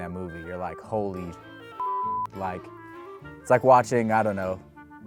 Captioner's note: beep